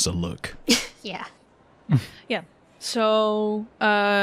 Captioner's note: chuckles